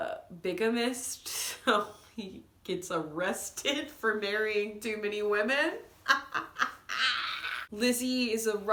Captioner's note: ugly laughing